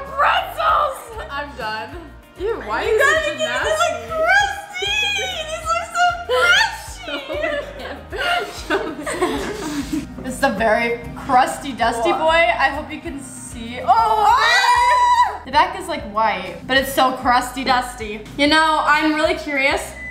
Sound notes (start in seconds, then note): 6.3 both laugh; 14.8 screams